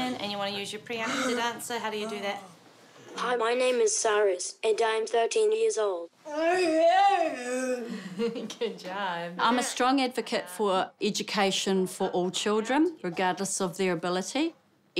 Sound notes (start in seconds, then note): 7.8 chuckles